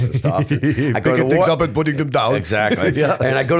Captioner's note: laughter; chuckle